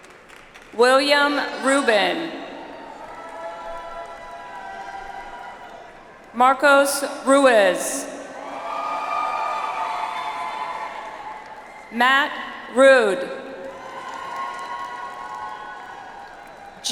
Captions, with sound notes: William Rubin. (audience applauds) Marcos Ruiz. (audience applauds) Matt Ruud. (audience applauds)